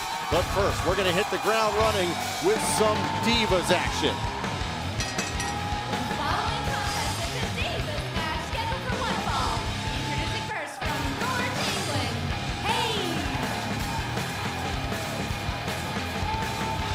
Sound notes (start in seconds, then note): 4.9 bell ringing